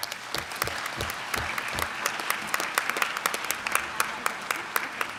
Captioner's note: clapping